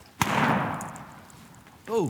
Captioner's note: gunshot